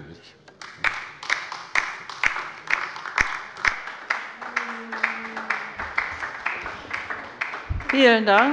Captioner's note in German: Beifall bei der LINKEN